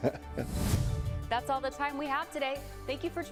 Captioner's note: laughter